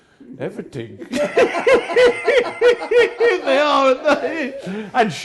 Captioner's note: Ainsley and Paul hysterically laughing